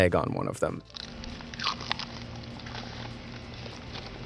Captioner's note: egg sizzling